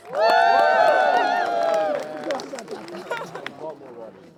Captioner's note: cheering